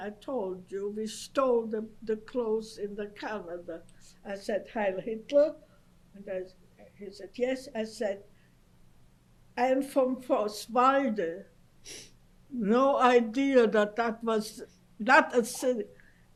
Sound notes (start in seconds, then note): 10.0 non-english